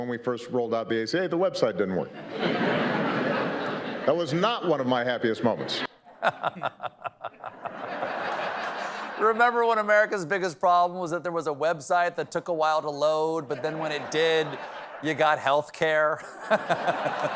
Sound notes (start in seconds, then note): 2.1 laughter; 6.0 laughing; 16.2 laughs; 17.1 applause